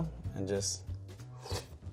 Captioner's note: mouth slurping